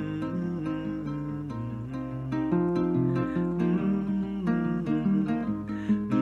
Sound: guitar playing; humming

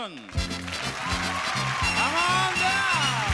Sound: audience cheering; upbeat music

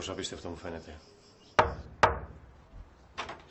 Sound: door knocking

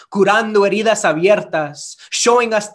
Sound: speaks Spanish

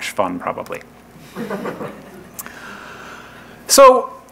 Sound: laughing

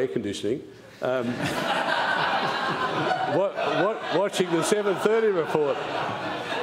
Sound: laughter

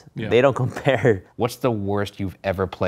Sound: laughs

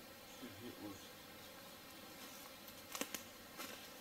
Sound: twigs snapping

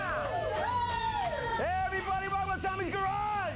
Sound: audience cheering; upbeat rock music

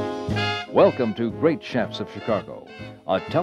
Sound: voiceover

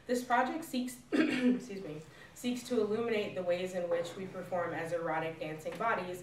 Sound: coughs

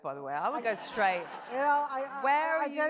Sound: audience laughs

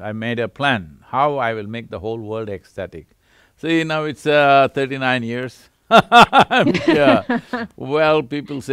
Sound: both laugh

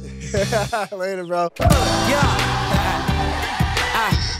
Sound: laughs

